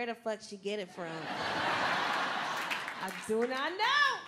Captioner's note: crowd laughing